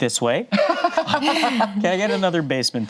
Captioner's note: group laughs